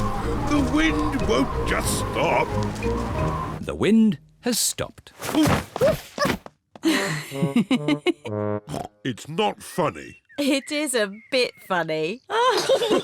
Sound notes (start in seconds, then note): 6.9 giggles